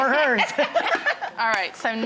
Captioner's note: laughing